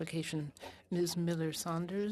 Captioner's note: speaking French